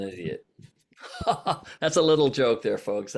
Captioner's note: laughs